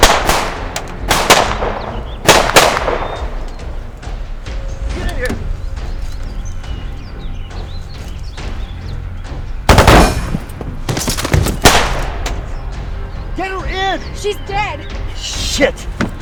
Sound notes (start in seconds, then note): 0.0 bullets pinging; 0.0 guns blasting; 10.3 Agent Milland thudding; 11.0 gun pattering